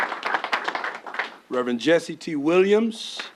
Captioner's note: applause